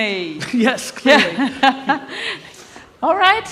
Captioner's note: laughs